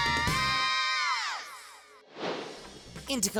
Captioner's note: air swish